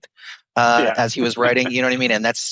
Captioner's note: laughs